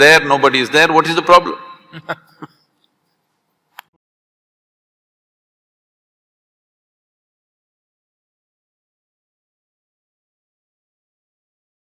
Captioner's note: Karan Johar laughs